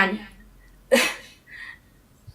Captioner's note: chuckles